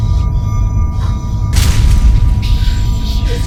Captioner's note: ominous sounds; crashing sound